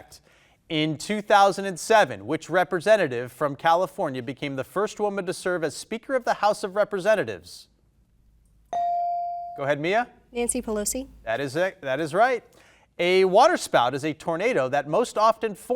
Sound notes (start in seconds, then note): 8.7 bell dinging